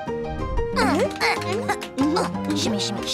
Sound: grunting

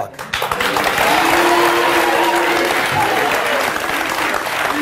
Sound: audience applauds

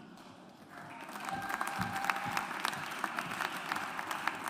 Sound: audience applauds

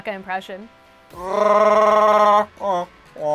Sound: Chewbacca impression

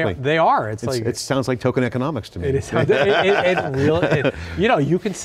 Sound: laughs

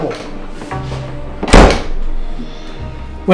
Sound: door closes

